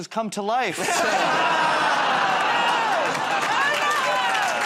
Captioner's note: audience "Oh"s